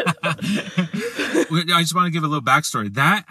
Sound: laughter

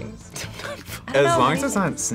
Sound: laughs

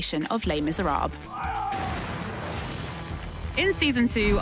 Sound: cannon booming

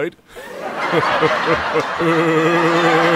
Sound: laughter

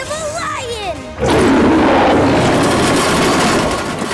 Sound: roaring

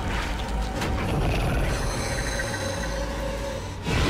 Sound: The Mind Flayer growling; The Mind Flayer roaring

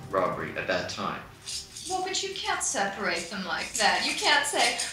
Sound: voiceover

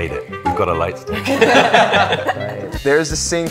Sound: haha / Haha

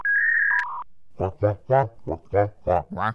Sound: squawking

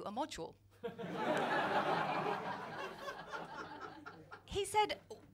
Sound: laughter

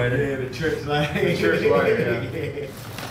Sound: Wizard giggling

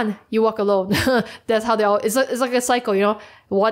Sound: chuckles

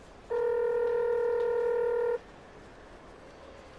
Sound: telephone ringing

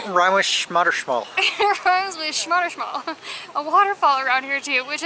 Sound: laughter

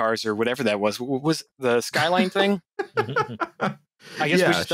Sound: laughter

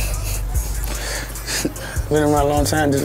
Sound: laughs

